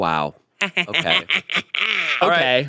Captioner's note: chuckles